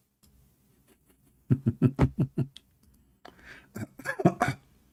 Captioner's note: Ketawa